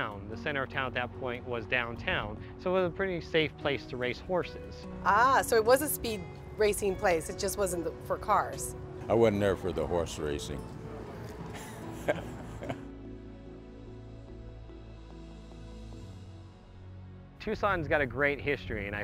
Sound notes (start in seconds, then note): 11.5 laughs